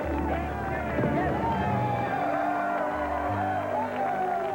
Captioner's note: crowd cheering